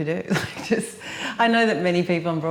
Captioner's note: laughs